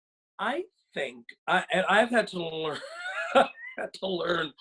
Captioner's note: laughs